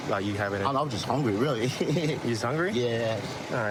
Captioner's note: laughing